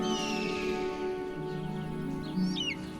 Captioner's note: eagle screeching